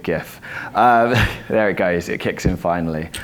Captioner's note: laughs